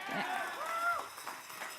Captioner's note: cheers and applause